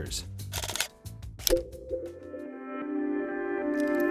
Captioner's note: button clicks; soft music